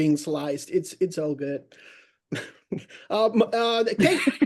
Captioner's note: laughs